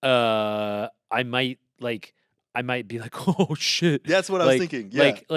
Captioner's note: chuckles